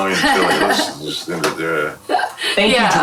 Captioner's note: laughing